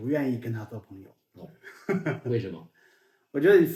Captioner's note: laughing out loud